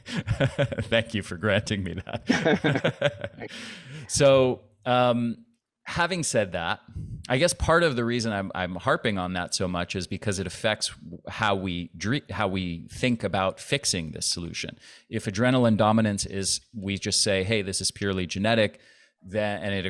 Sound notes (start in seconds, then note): 0.0 laughs; 3.4 laughter